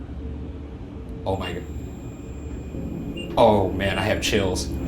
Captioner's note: REM-Pod beeping